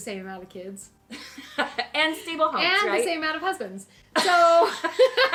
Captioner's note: laughter